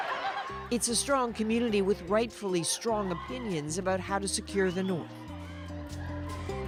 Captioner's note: cheers and Applause